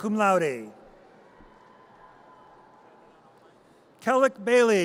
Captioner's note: audience cheers